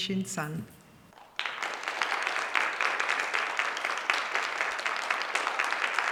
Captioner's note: applause